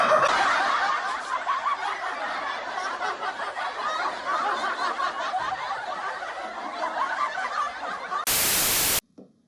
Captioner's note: crowd Laughter